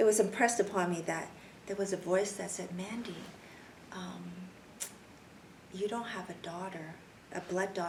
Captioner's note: clicks tongue